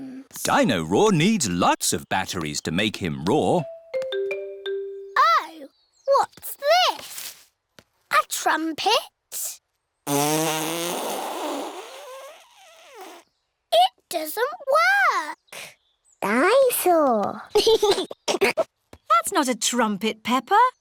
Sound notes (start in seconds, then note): 10.0 blows raspberry; 17.5 giggles